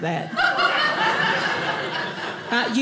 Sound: audience laughing

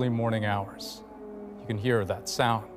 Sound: sirens

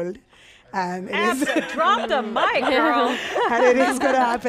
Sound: laughs

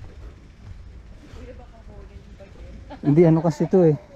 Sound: laugh

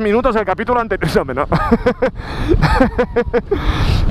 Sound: heh heh heh heh

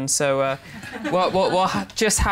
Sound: laughter

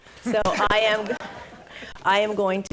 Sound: all laughing

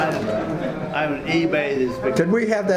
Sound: faintly speaking

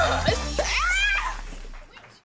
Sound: woman in video screaming

